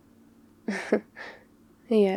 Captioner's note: laughs